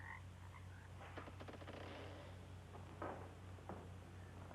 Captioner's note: insects chirping; door creaking